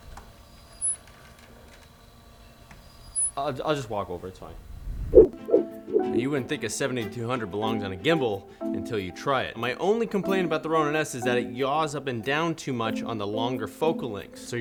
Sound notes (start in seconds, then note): 0.5 whirring and creaking continue; 5.1 whooshing